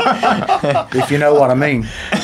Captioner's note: laughing